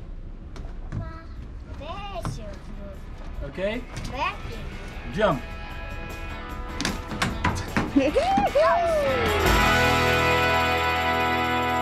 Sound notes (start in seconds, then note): 7.9 cheers